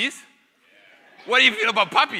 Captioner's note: audience laughing